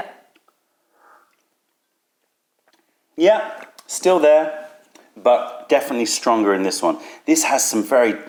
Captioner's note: sips tea